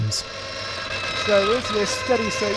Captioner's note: engine revving